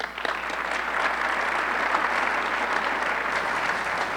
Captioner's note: audience clapping